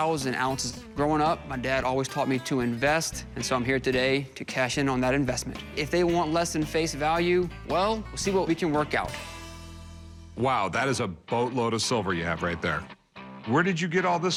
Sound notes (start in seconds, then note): none